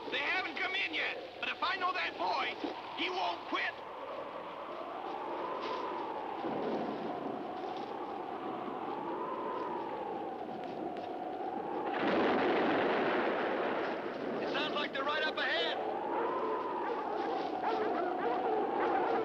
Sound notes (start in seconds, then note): 4.2 wind howling; 11.6 thunder crashing; 16.0 dogs barking